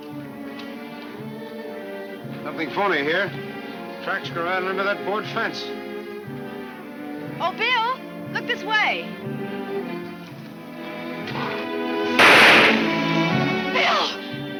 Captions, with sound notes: - Something phony here. Tracks go right under that board fence. - Oh Bill, look this way? (shot firing) Bill!